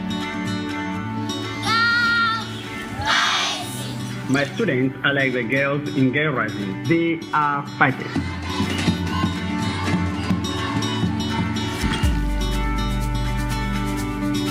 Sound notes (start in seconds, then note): 2.9 shouts; 2.9 chanting